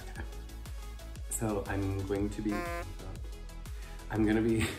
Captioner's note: honking noise